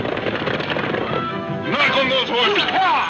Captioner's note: horse hooves thundering; man exclaiming